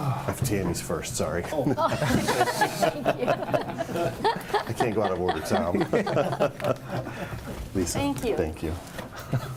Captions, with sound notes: I have Tami's first, sorry. (laughter) Thank you. (mumbles and giggles) Lisa, thank you. Thank you.